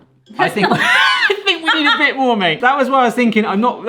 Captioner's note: laughter